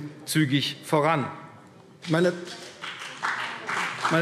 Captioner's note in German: Beifall CDU und BÜNDNIS 90/DIE GRÜNEN